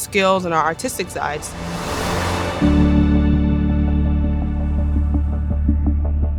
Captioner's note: traffic sounds; soft music